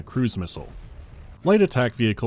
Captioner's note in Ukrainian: ба-бах